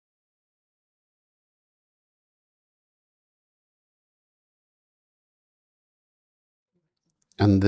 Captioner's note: silence